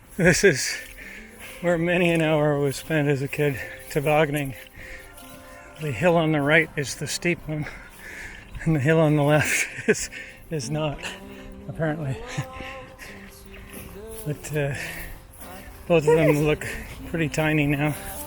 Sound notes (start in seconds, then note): 11.7 chuckling